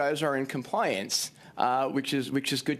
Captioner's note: speaking French